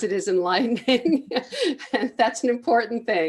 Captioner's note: laughs